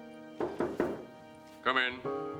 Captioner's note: knocking on door